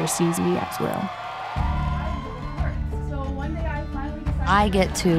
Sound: crowd cheering

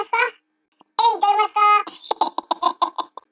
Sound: laughter

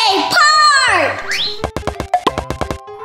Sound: high whistling; quick drumming

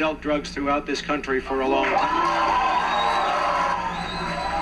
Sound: crowd cheering

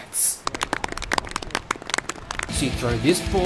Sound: clapping

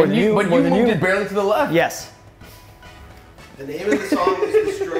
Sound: laugh

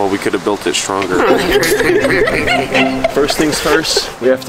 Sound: everyone laughs

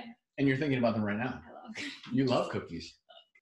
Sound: laughs

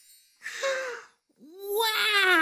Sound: gasping

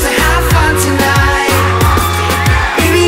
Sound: crowd cheering

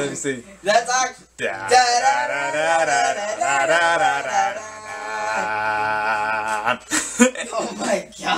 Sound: both hums to the music

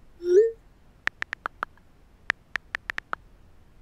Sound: clicking

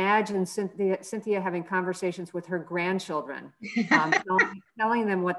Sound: laugh

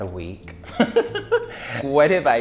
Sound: laughs

